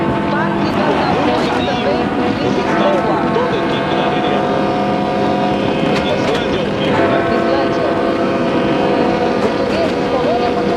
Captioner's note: Icelandic